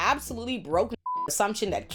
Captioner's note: beep